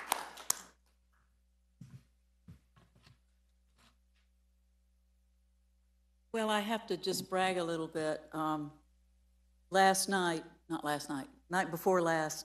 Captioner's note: applause